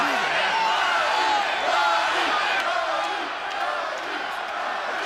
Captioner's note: audience chanting